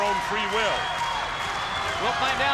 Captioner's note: spectators cheering and applauding